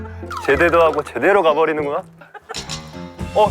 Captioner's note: chattering away